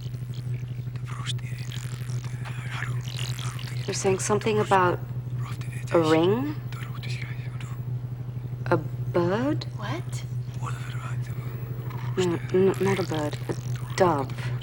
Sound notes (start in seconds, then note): 1.3 whispers in foreign language; 11.7 whispering